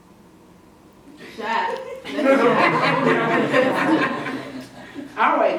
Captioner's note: class laughing